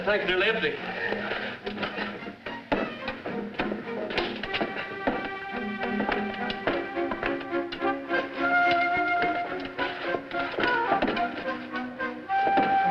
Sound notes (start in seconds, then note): 1.9 tools clattering